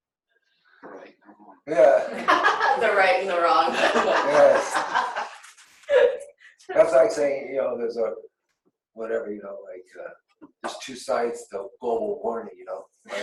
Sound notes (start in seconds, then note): 4.9 laughs; 13.0 laughs